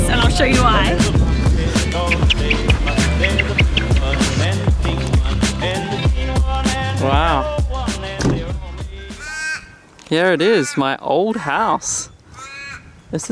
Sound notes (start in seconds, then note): 2.2 sand squeaks; 4.9 tropical music; 9.1 animals squawk